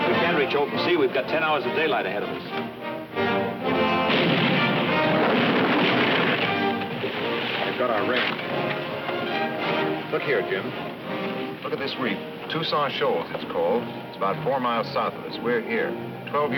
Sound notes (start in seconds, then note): 3.9 cannon firing; 5.3 ship clattering